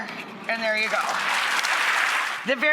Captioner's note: audience applauding